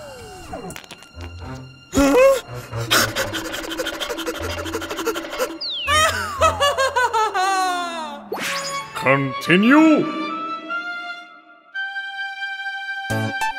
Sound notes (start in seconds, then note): 1.8 hyper-ventilating